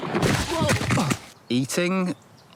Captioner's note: body thuds; footsteps scrape